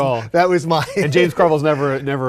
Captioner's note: men laugh